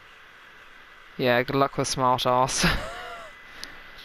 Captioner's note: laughs